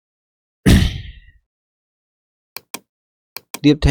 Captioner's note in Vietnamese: hắng giọng